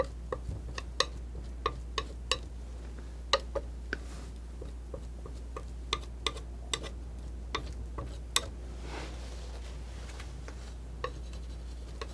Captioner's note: scratching